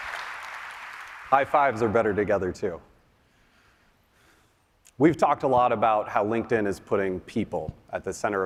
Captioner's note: applause